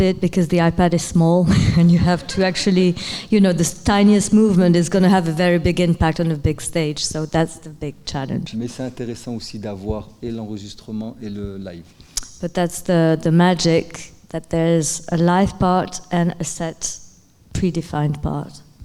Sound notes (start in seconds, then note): 1.4 chuckling; 8.6 speaking in French